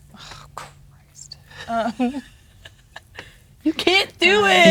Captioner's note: laughing